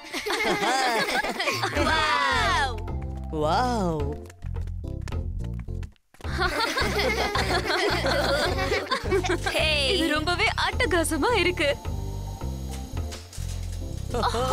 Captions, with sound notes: Wowwwww [ Laughing ] Hey, This is awesome